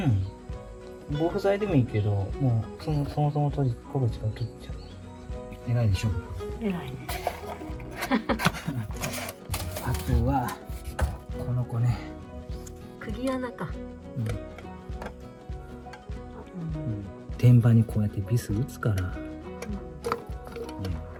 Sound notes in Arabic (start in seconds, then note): 7.9 يضحك